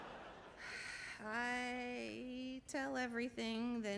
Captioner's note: sighs